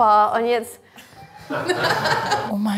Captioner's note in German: Lachen